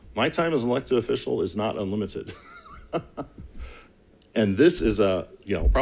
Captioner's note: laughs